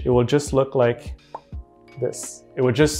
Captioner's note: vocalizing popping